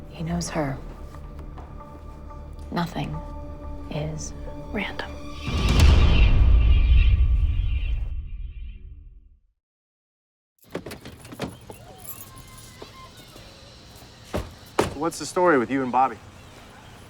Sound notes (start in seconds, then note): 11.7 children playing